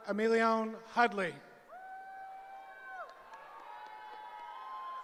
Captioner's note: cheering